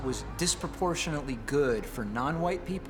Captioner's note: bell tolling